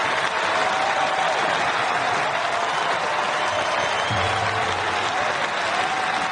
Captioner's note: huge audience applause